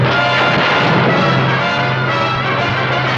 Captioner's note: explosions; gun shots; tank rumbling